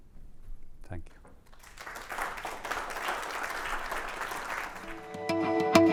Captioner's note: applause